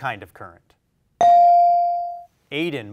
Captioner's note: bell rings